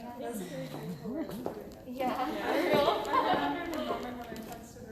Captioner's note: indistinct conversation, laughter